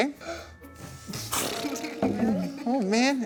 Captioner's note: blowing out Air